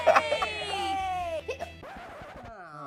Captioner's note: Orange hiccups; record scratching